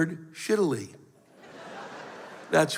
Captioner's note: laughter